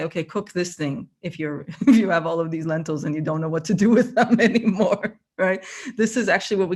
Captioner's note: laughter